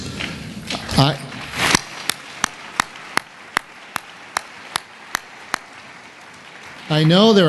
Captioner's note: applause